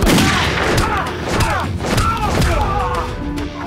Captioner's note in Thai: เสียงปืน; เสียงการต่อสู้